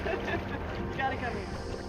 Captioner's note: laughter